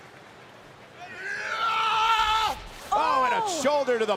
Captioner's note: Strowman yells